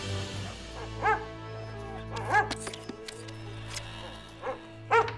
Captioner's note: Buck barking